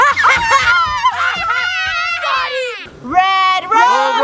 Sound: cheers

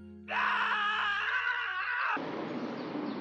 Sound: yelling

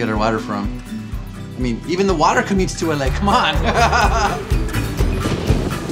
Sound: laughs

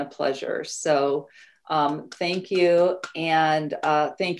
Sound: hands clapping

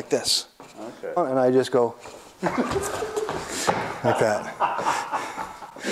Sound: guy laughs

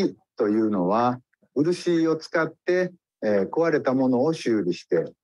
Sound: speaks in Japanese

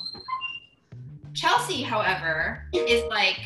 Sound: hinge squeaks; upbeat music

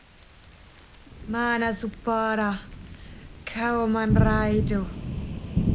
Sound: incantations

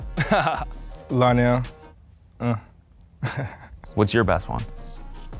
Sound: laughs; laughs

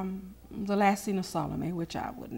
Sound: faintly speaking

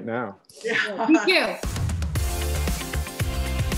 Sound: laughs

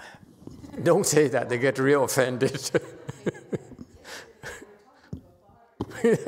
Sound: laughs

